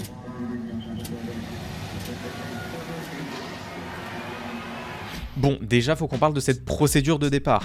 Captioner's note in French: bruit de fond de course de formule 1